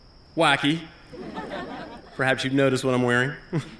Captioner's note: laughter